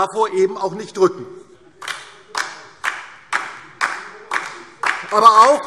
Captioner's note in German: Beifall DIE LINKE